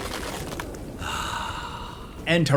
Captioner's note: O'Dimm sighs